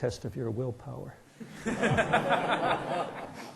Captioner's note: laughter